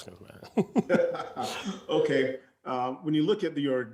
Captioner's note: laughs loudly